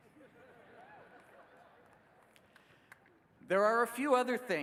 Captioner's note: laughing